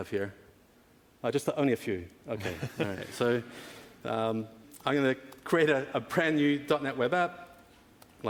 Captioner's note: laughing